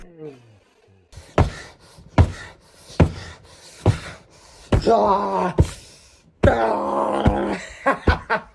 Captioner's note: punching; punching + laughing